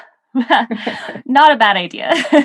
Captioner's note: laughing